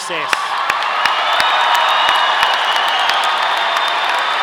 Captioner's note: audience applauding